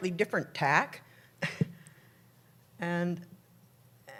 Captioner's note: laughs